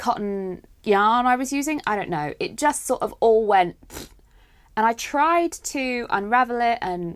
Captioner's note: fart noise